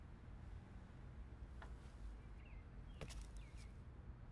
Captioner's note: birds chirp